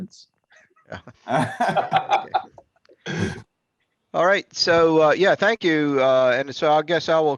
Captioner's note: laugh